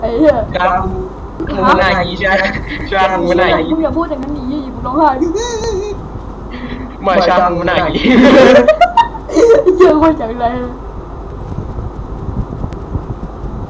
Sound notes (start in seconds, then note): 6.5 sobs; 9.3 laughs